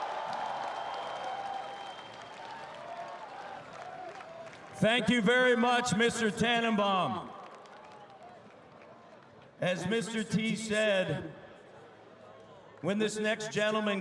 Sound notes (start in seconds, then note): 3.5 cheering; 3.9 applause